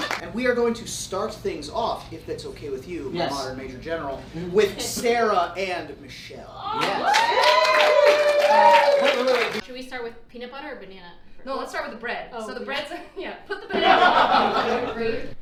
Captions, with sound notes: - We are going to start things off, if that's okay with you, modern major general, with Sarah and Michelle. (audience cheering) - Should we start with peanut butter or banana? - No, let's start with the bread. - Oh, yeah. - So the bread's, yeah, put the banana on.